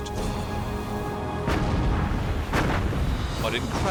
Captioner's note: explosions